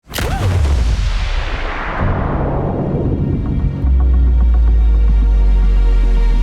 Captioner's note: sound effects